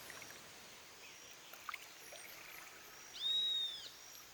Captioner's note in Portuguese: Som sutil de água